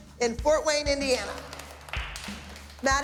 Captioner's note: clapping